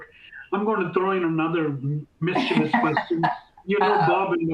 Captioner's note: laughter